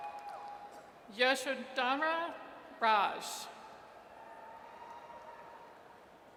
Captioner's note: audience cheers